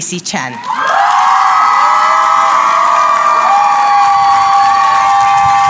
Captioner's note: applause